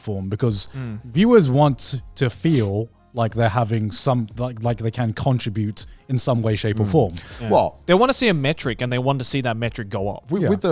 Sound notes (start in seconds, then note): none